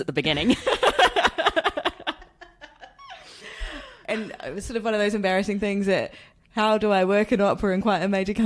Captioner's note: laughs